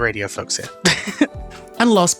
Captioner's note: laughs